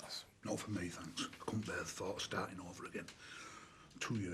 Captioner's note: none